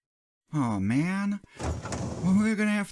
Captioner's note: drawer sliding